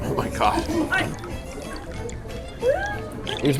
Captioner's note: sauce trickling